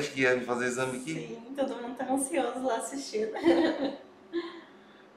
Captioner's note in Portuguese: risos